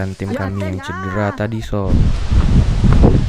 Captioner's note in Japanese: 嗚咽